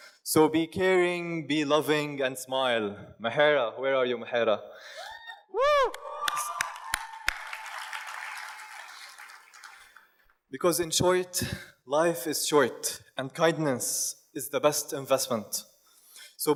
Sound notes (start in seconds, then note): 5.8 audience cheers and applauds